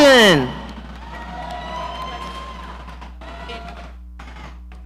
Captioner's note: audience cheering